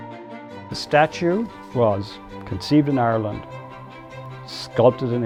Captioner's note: voiceover